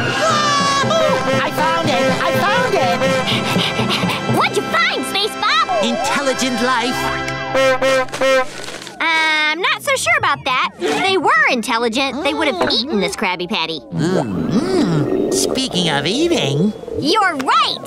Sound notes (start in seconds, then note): 3.2 panting; 7.0 horn honking